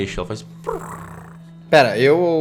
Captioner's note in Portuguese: ronronar